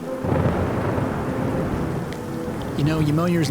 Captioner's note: thunder rumbling